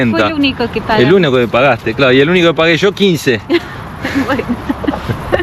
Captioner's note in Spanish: risas